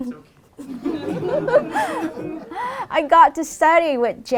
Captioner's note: laughter